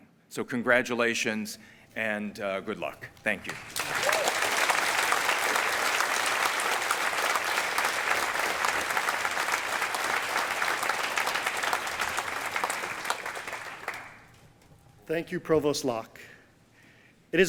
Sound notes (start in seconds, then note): 4.2 applause